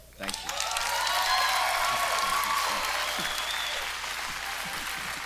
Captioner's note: audience cheering